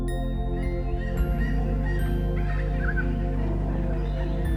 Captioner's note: birds calling